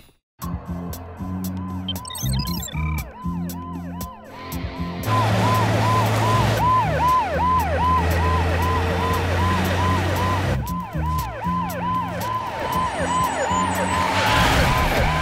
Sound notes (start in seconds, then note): 2.0 sirens wail